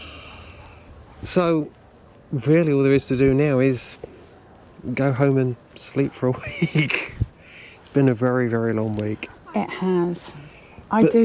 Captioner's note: laughter